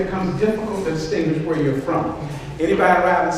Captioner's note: none